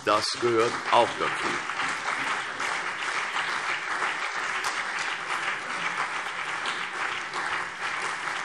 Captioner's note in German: Beifall